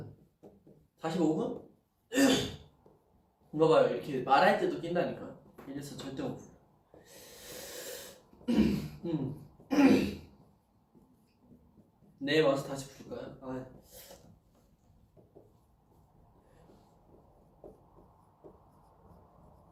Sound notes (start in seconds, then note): 9.6 clears throat